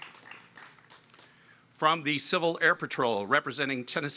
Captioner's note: applause